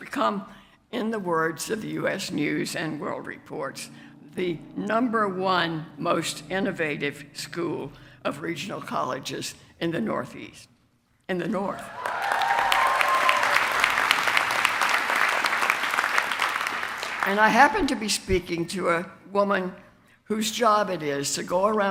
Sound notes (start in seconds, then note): 11.9 applause